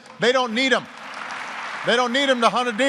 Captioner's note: applause